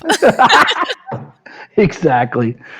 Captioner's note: laughing